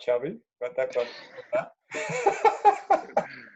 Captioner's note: chuckling